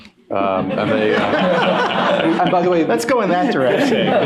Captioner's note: laughter